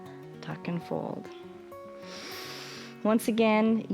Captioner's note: inhales